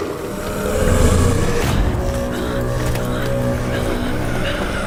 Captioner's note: deep horns and roaring continue